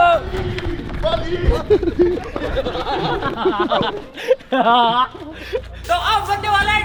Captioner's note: laughing